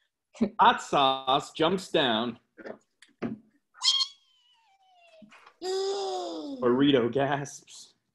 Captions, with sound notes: Hot Sauce jumps down. Weeeee! [gasping] Burrito gasps.